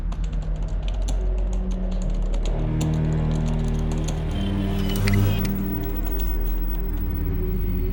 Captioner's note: eerie music; monitors whirring